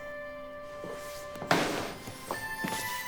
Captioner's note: bag thudding; uplifting music